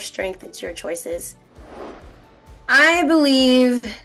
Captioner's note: air whooshing